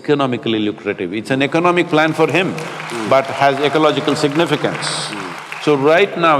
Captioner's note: applause